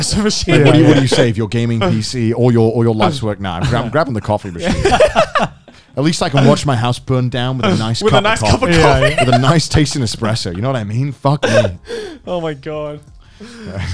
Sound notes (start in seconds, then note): 3.6 laughing